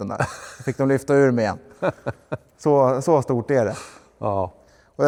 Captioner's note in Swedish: skratt